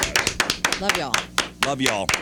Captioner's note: clapping